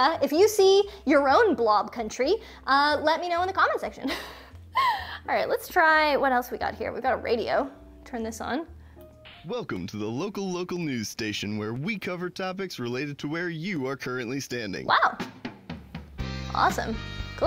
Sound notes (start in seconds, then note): 9.5 male Voice; 16.0 upbeat music